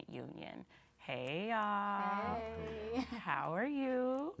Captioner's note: chuckles